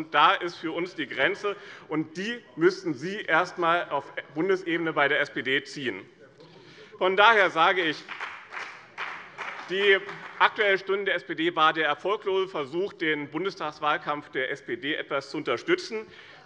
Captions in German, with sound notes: Da ist für uns die Grenze. Diese Grenze müssten Sie erst einmal bei der SPD auf Bundesebene ziehen. [Beifall bei dem BÜNDNIS 90/DIE GRÜNEN und der CDU] Die Aktuelle Stunde der SPD war der erfolglose Versuch, den Bundestagswahlkampf der SPD zu unterstützen.